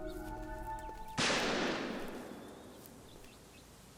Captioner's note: gun firing